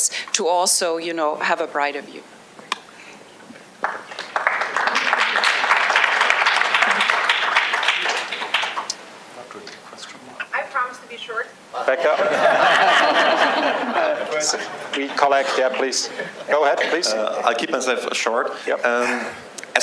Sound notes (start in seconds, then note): 3.8 applause